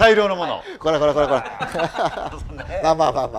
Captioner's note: laughter